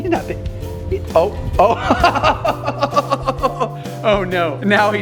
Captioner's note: Rocky laughs